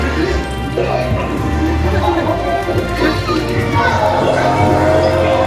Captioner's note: monster growling